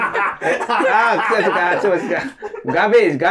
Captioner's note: laughing